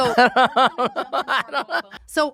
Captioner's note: laughs